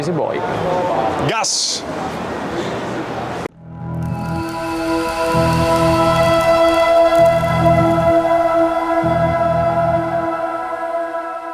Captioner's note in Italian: Applauso